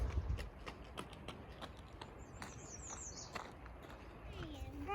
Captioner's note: birds chirping